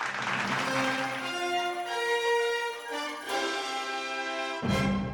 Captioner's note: audience applauds; dramatic music